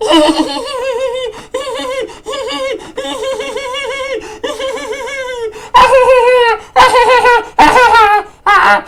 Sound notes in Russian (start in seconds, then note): 1.9 изображает детский смех